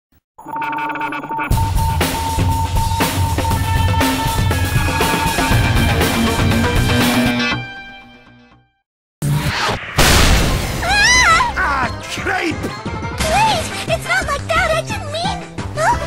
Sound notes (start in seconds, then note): 9.5 missile launches